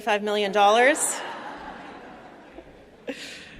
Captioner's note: chuckles